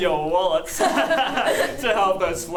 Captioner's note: chuckle